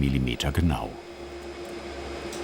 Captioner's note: quiet roaring